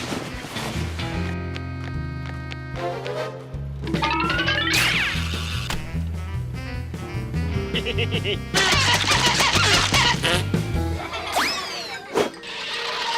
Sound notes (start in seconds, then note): 7.6 laughs; 9.4 bottles squeaking; 10.8 giggling